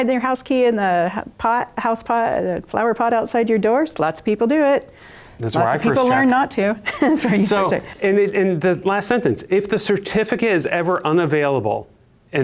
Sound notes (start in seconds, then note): 6.8 laughs